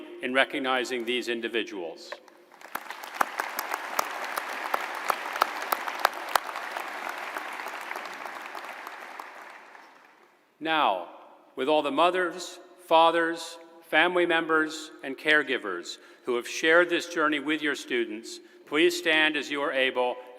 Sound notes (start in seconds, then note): 7.5 applause